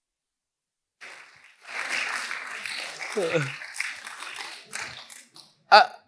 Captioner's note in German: Applaus